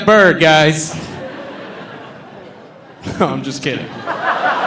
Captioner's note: audience laughing